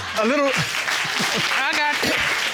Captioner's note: chuckles